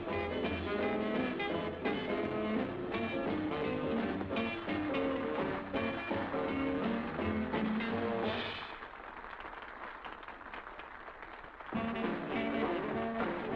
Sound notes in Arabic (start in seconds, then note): 5.2 تصفيق; 11.7 موسيقى الجاز المتفائلة